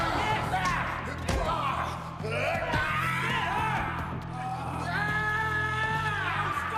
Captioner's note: man screaming loudly; blows thudding; man screaming